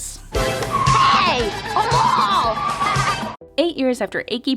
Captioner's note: laughs